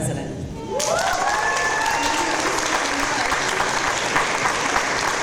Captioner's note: audience applause